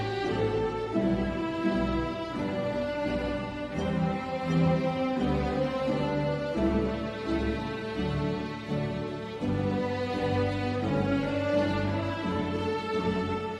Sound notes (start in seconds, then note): none